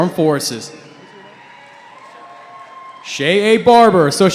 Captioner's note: cheering